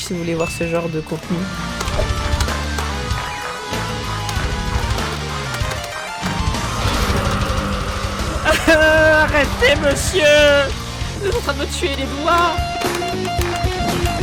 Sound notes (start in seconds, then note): 1.1 hard rock applause; 13.2 guitar music